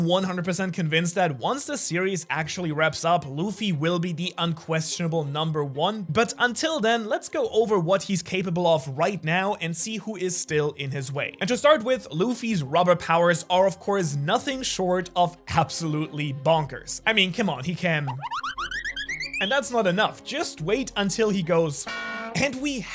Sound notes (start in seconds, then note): 18.0 insert cartoon SFX